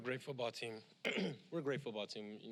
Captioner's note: cough